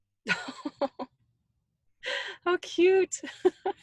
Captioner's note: laughs